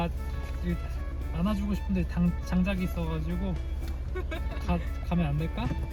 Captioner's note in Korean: 웃음